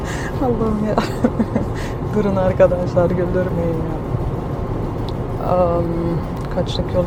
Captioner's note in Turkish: kahkaha